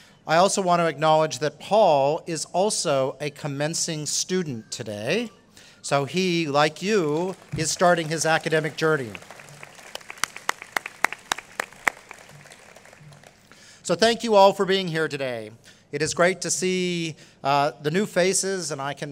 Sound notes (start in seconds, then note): 9.2 applause